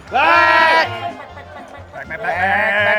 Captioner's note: shouting